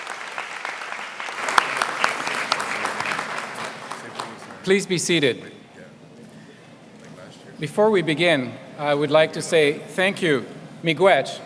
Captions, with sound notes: (APPLAUSE) >>Please be seated.